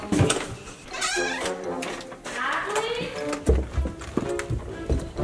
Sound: door creaking

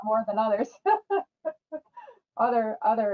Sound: chuckles

